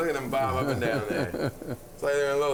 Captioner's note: chuckling